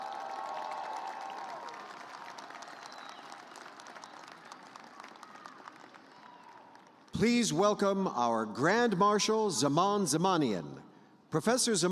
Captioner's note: cheers and applause